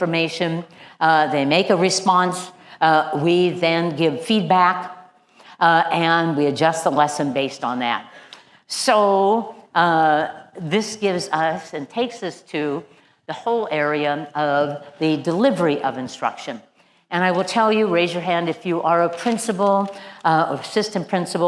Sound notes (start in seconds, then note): none